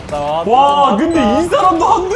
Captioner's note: gasps nonstop